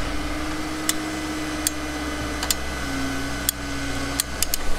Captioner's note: machine noise in the background